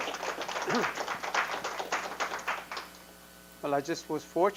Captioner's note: audience applause